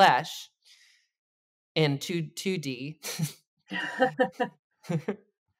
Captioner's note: laughs